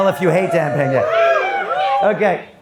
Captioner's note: audience yelling